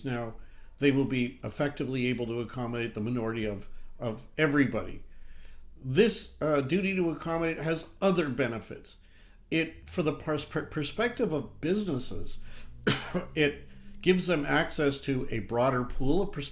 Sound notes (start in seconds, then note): 11.8 coughs